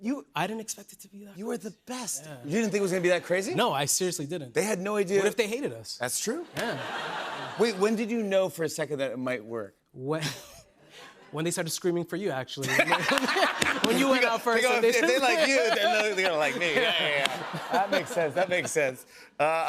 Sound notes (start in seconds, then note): 6.5 laughter; 12.6 laughter